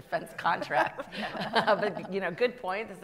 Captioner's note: panel laughs